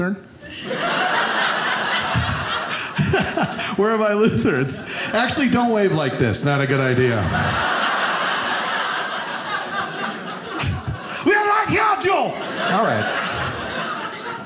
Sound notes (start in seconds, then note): 0.5 audience laughing; 7.0 audience laughing; 11.2 yells in German